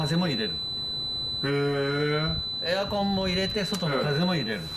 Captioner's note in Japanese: 電子音